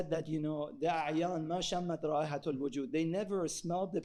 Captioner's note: speaking in foreign language